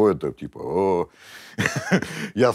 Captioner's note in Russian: усмехается